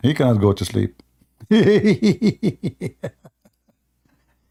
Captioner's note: Ketawa